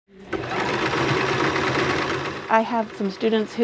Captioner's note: sewing machine sounds